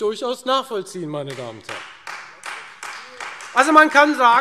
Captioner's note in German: Beifall Freie Demokraten